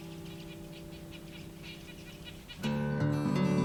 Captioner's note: birds chattering